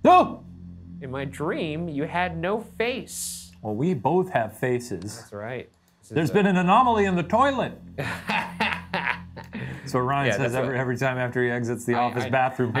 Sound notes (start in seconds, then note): 7.9 laughs